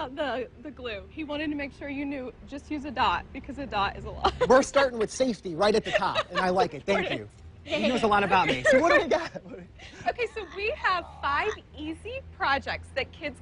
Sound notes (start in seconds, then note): 4.2 laughs